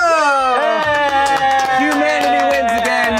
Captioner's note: group cheers